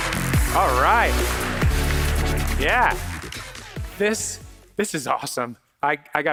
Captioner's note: applause